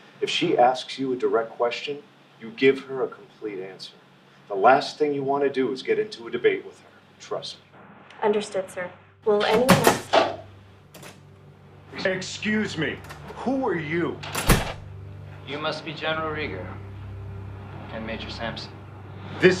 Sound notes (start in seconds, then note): 9.4 door opening; 14.2 door shutting